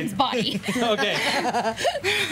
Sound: laughing

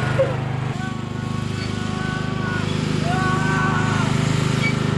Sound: fearful screaming

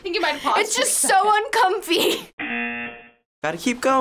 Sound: buzzer

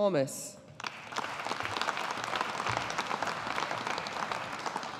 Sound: audience applauding

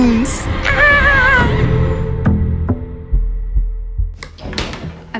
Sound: pretending to scream

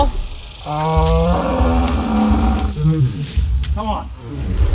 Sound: roaring

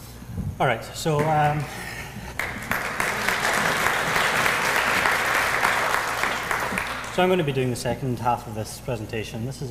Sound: applause

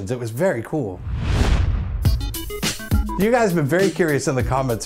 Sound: swoosh / music plays

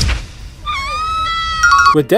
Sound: woman screams; "Correct!" sound effect

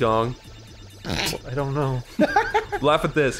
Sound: snort that sounds like a fart; laughs

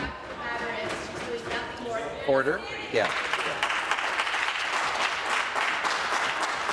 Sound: voice trailing

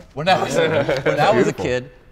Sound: group laughing

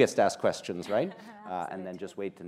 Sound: chuckles

